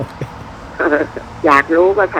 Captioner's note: laughing